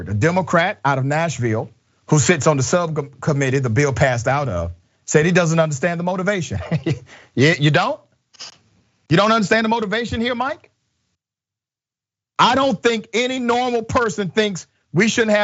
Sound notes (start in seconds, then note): 6.5 laugh